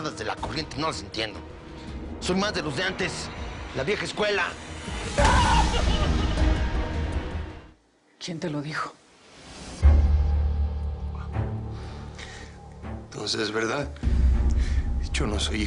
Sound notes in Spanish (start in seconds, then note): 5.0 Gritos